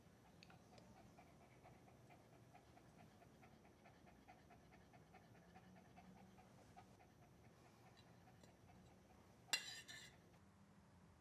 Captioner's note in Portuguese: respiração de cachorro